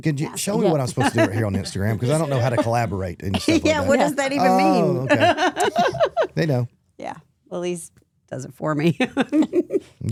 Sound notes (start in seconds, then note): 4.3 laughs; 9.4 laughs